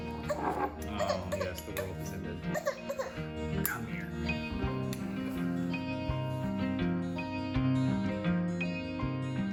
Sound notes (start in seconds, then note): 2.5 baby fusses